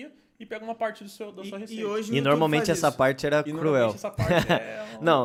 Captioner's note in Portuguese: risos